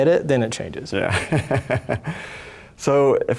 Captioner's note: laughs